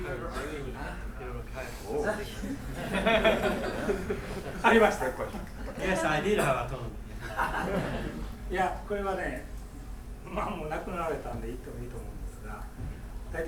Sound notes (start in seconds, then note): 2.7 laughing; 4.7 speaking in foreign language; 7.5 laughing; 8.6 speaking in foreign language